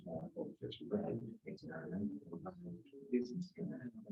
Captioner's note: members chattering